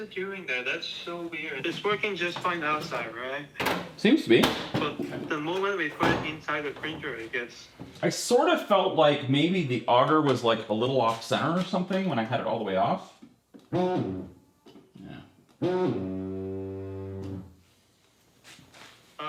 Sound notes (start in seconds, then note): 13.7 engine buzzes